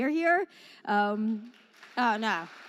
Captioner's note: applause